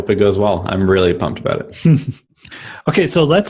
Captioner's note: laughs